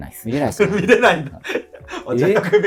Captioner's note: laughing